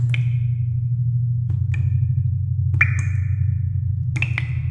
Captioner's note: water dripping